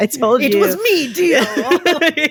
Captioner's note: laughter